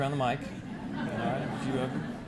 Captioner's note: audience laughing